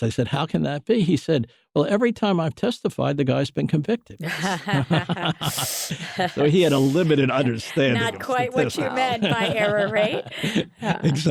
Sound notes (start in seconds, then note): 4.2 laughter